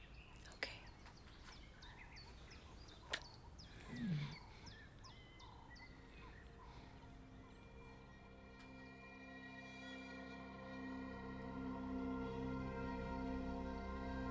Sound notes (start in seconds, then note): 3.0 kisses; 7.4 slow eerie music plays